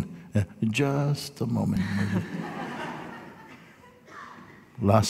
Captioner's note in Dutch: gelach